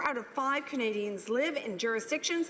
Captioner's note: none